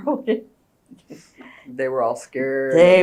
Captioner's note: laughs